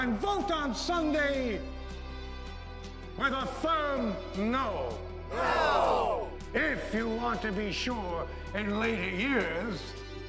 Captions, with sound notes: And vote on Sunday with a firm no. - [Crowd] No! - If you want to be sure in later years